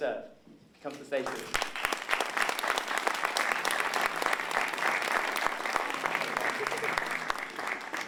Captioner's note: applause